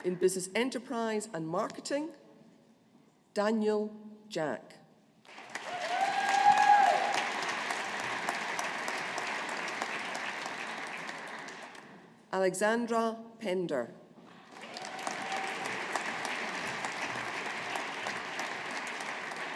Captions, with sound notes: In Business Enterprise and Marketing, Daniel Jack. (AUDIENCE APPLAUDING) Alexandra Pender. (AUDIENCE APPLAUDING)